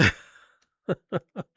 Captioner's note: laughs